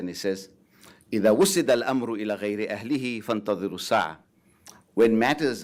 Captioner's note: speaking foreign language